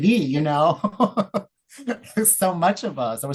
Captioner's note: laughs